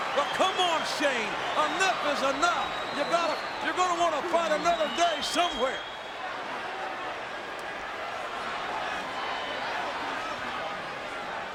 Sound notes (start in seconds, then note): 7.4 crowd clamoring